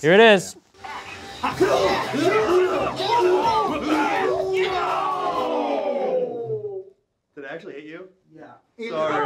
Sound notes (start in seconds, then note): 1.3 crowd cheering; 1.5 grunting